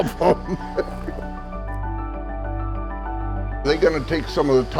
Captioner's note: laughs